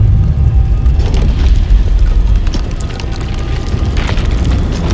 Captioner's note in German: Knirschen des Schotters